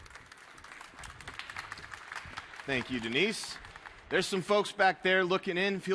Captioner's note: applause